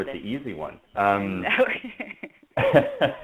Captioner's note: laughs